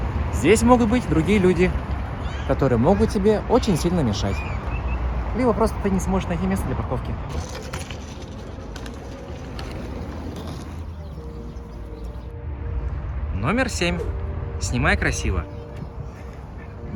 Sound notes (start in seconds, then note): 1.1 someone else's child screaming offscreen; 4.5 someone else's child screaming offscreen; 7.1 scooter rumbles; 11.1 soothing music plays